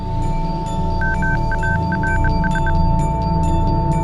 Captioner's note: beeping